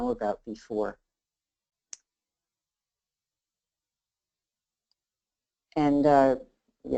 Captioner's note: silence